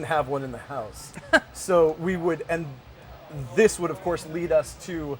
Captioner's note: laughter